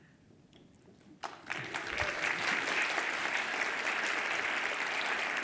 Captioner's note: attendees applaud